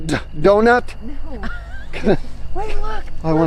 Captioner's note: laughs